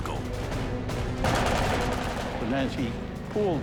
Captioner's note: gunfire